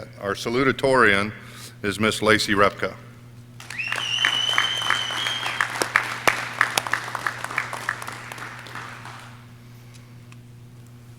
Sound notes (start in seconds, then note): 3.6 audience cheering